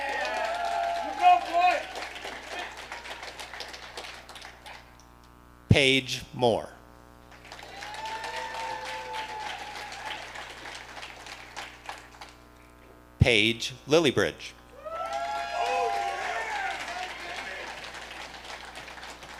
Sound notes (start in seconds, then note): 7.3 audience applauding; 14.7 audience cheering